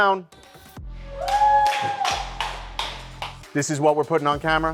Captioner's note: contestants applauding